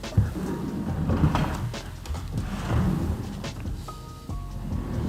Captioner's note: drawers scraping